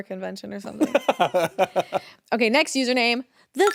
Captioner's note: Jacksepticeye laughing